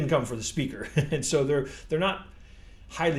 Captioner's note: chuckles